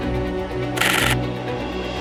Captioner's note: shutter noises